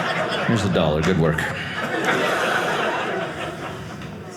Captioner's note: audience laughing